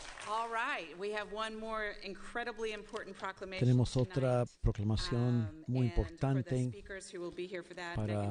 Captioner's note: applause